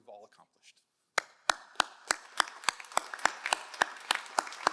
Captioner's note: all applauding